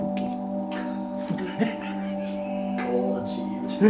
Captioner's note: laughs